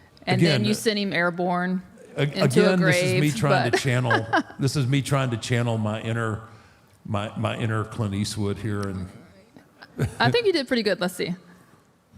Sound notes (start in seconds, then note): 4.1 Michelle laughs